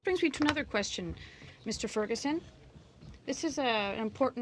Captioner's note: speaking in french